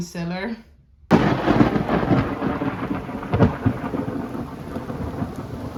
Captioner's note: thunder